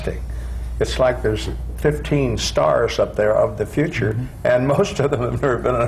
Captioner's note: laughs